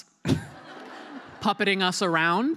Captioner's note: laughter